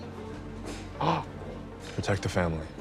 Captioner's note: gulps